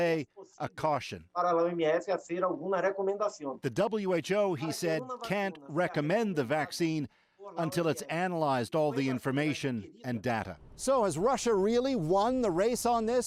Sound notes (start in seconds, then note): 3.4 speaking Foreign Language